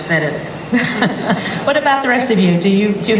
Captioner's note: laughter